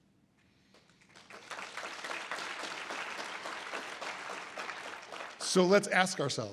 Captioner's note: audience applause